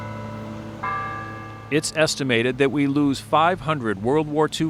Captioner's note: bell ringing